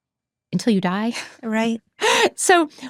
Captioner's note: chuckles